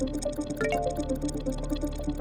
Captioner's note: computer chimes